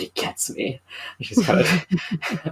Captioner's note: laughs